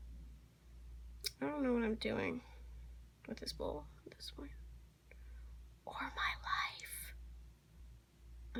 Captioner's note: whispers